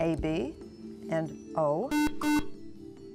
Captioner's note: buzzer